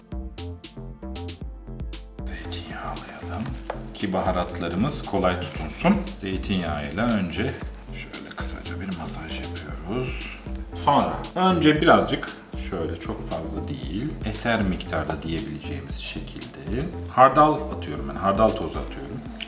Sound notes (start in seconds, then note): 8.7 rubbing